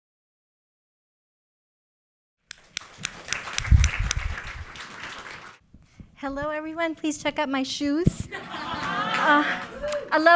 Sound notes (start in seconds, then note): 2.5 applause; 8.2 laughter